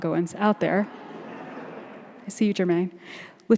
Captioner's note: audience laughing